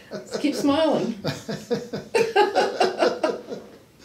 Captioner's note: laughs